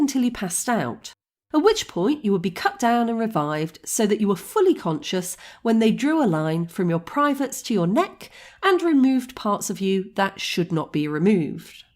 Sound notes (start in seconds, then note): none